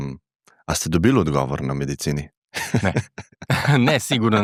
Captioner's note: laughs